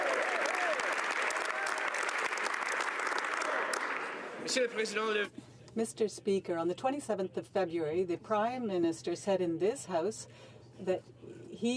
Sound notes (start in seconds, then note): 1.9 some Applause